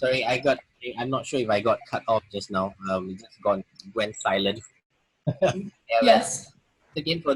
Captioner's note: laughs